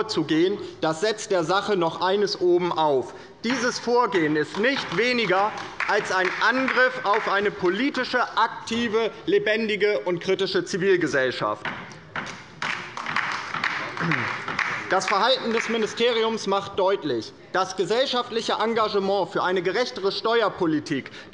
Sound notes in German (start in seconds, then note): 4.2 Beifall bei der LINKEN; 12.6 Beifall bei der LINKEN